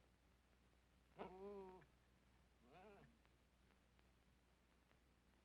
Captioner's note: dog whimpering